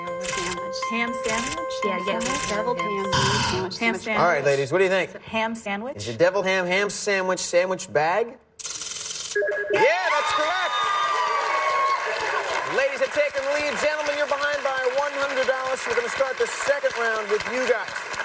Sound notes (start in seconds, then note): 3.0 buzzer; 12.0 cheers and applause